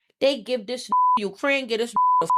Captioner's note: beep